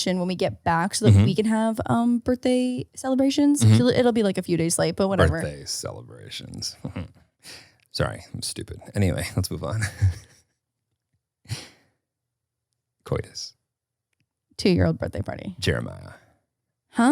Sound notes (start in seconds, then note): 6.7 chuckling; 9.2 laughing